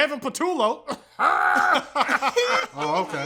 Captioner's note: laughing; even weirder laughing; weird laughing